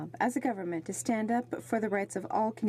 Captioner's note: speaking in french